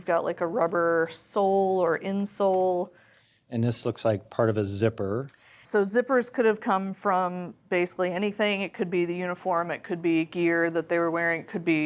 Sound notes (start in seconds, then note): none